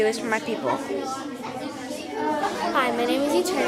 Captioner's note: students chattering